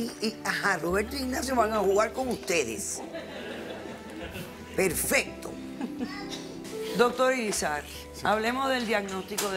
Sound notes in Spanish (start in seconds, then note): 3.0 risas